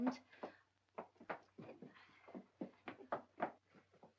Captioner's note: feet scrambling